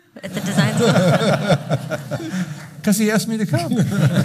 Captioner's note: laughing